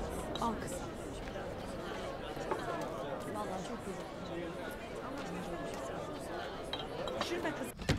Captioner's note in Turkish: Sokak ortam sesleri